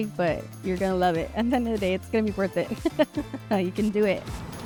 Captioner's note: laughing